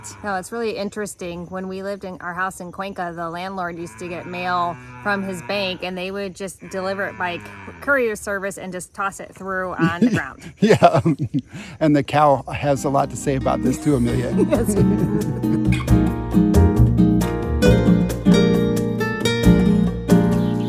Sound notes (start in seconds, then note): 0.0 cow mooing; 3.8 cow mooing; 9.7 laughing; 15.6 bright music; 15.6 laughing